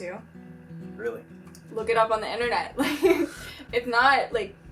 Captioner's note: laughs